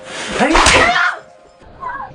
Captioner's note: slapping